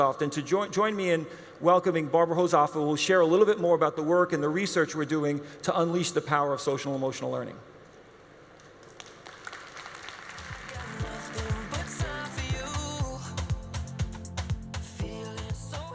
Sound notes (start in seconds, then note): 8.7 audience applauds